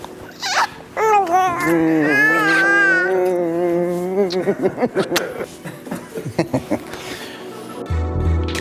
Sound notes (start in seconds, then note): 1.6 giggles